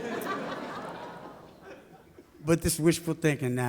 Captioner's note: audience laughs